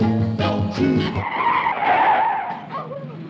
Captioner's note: car tires screeching